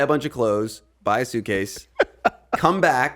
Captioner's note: Justin laughing